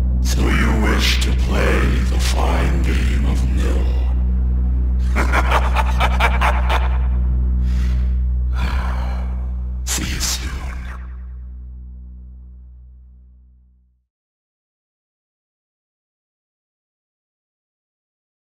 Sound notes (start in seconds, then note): 5.0 X laughs